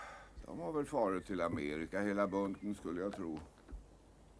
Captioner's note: none